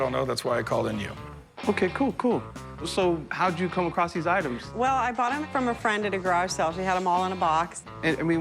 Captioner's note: none